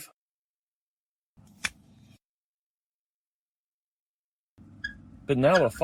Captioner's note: marker being uncapped